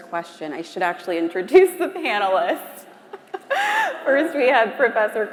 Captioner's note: laughs